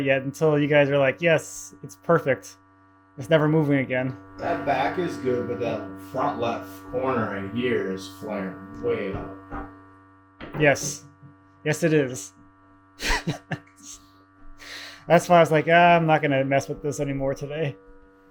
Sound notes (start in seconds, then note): 13.0 chuckles